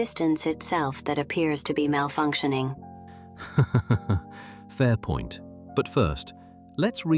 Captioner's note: laughs